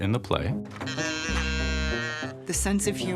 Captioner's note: mechanical cow mooing